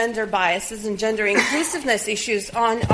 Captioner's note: audience member coughs